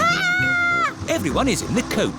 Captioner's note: shrieks